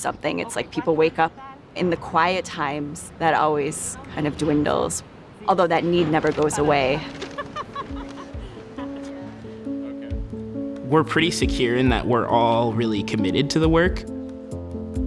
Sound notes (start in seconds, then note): 6.2 gentle music; 7.2 person laughing